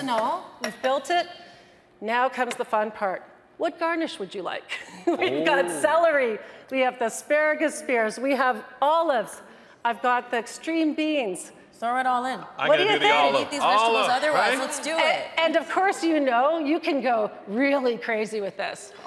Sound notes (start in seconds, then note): 5.1 laughs